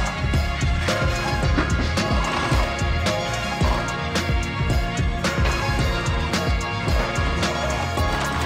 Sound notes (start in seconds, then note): 1.6 sewing machine whirs